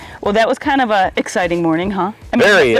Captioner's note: none